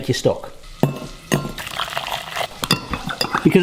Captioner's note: spoon clanks; water sloshes; stock cubes thud